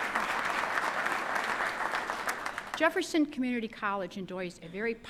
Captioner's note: applause